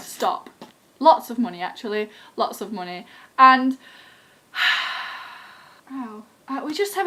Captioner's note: sigh